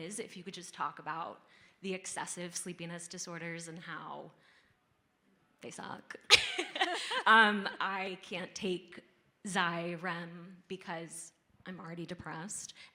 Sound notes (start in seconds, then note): 6.5 laughing